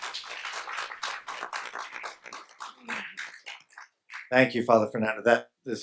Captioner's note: audience and panelists applaud